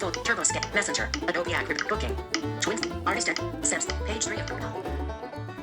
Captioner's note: stammering